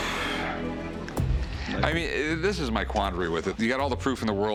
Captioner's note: heavy sigh